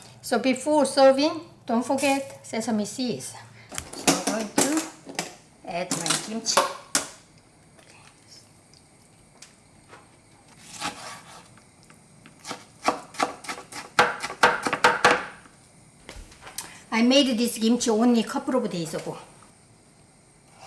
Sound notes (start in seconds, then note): 12.4 knife chopping